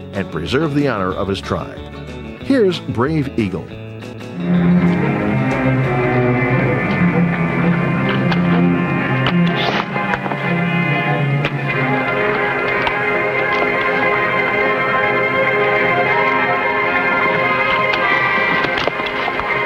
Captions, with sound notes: and preserve the honor of his tribe. Here's "Brave Eagle". (suspenseful orchestral music) (arrow swishing) (suspenseful orchestral music)